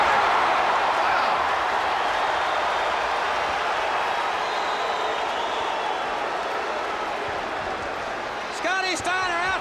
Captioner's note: crowd cheering